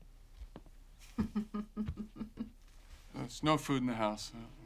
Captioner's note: laughs